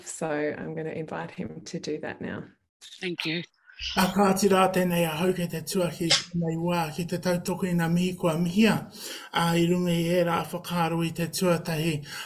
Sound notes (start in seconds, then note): 4.1 speaking in native language